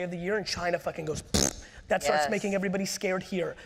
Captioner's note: mouth fart sound